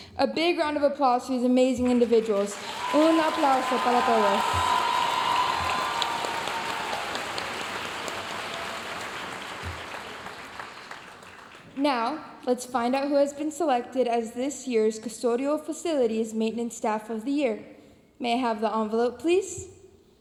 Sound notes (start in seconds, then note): 3.0 speaking in foreign language; 4.9 audience cheering and applauding